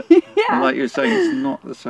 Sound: giggles

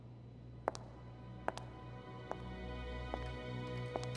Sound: footsteps

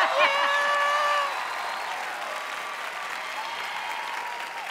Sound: audience cheering

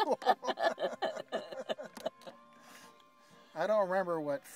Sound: both laughing

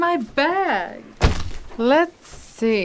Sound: heavy thud

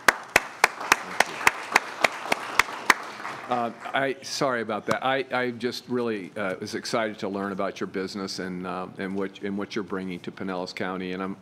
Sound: applause

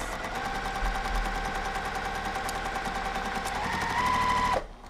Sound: sewing machine humming

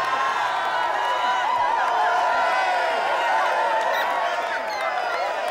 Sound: crowd cheering and applauding

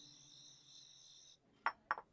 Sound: crickets chirping

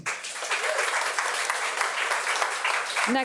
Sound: audience applauding

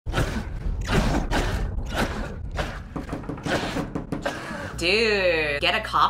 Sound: coughing incessantly

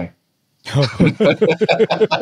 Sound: all laughing

